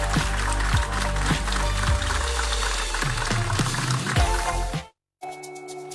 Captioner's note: applause